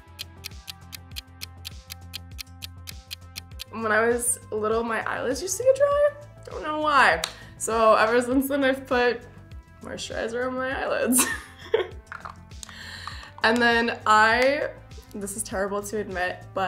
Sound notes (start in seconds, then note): 0.0 clock ticking; 7.2 hands clap; 12.3 laughs